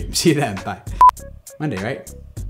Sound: beep

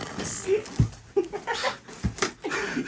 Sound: tehehehe

